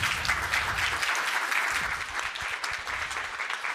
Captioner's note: audience applauding